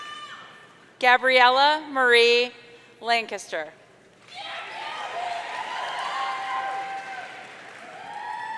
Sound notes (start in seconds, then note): 4.4 audience cheering